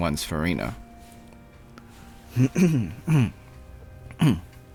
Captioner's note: clears throat